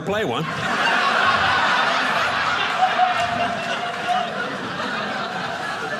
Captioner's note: audience laughing